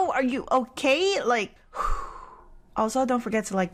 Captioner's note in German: ausatmen